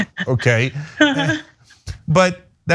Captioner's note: laugh